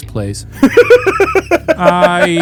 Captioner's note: laughing